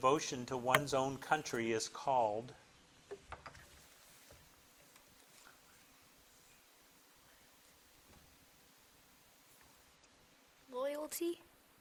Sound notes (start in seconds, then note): none